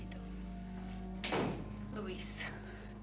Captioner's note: door shuts